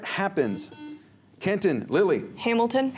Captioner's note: buzzer